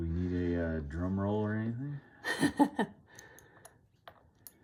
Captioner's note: laughs